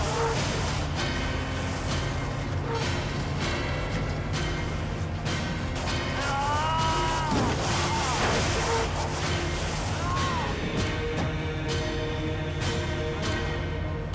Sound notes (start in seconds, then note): 6.1 screaming